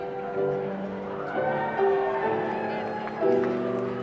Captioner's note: cheers